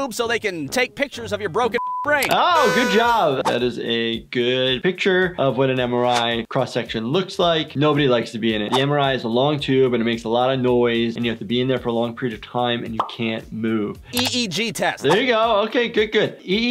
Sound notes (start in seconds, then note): 1.8 beep; 2.5 party horn blares